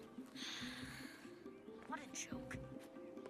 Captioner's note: sighs